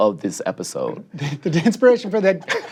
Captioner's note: chuckles